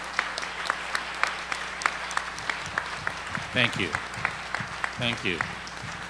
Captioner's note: applause